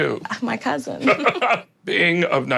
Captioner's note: laughter